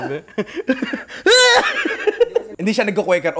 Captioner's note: laughs; imitates the sneeze